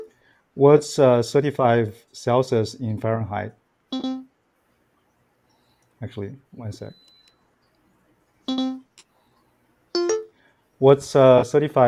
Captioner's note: tone and beeps